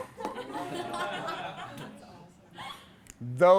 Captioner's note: class laughs